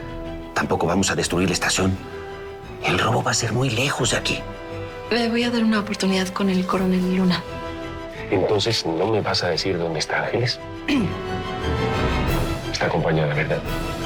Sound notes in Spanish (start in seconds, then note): 10.7 Güera carraspea